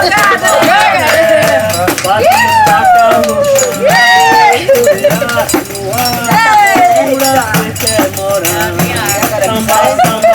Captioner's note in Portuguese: vozerio animado